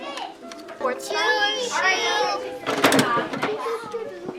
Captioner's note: children talking